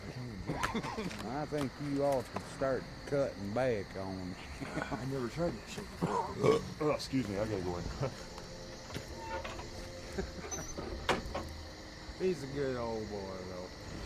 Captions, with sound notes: I THINK YOU OUGHT TO START CUTTING BACK ON. I'VE NEVER TRIED THAT SHIT BEFORE. [BURPS] OH, EXCUSE ME. ALL RIGHT, I GOTTA GO IN. [LAUGHS] HE'S A GOOD OL' BOY THOUGH.